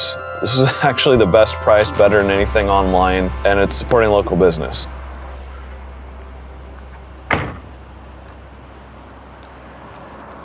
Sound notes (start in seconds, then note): 5.3 music fades; 6.8 hatch closes; 8.2 traffic sounds